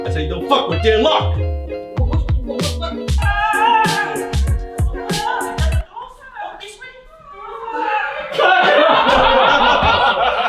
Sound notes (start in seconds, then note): 3.3 screams; 7.5 laughing